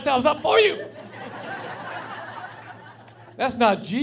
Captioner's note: laughing